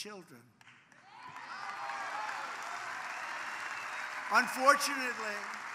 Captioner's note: applause